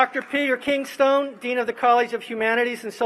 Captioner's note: applause